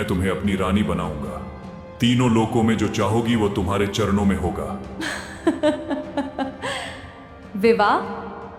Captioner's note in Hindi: हंसी